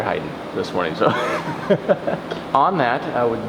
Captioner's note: laughs